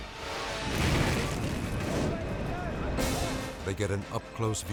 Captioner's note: flames thundering